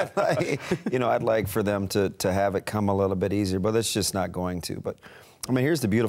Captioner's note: laughter